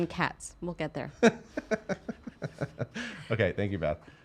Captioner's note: chuckling